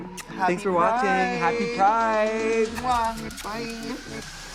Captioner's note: both blowing kisses